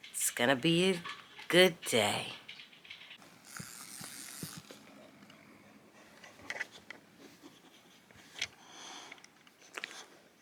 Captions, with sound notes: it's gonna be a good day. (toy whirring)